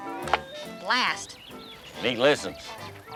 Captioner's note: melodic jazz music; ball thudding